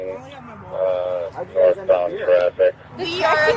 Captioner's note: radio chatter